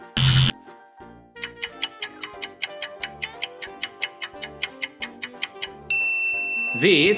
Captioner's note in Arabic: صوت طنين; صوت ساعة